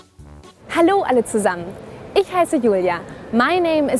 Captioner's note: speaks in foreign language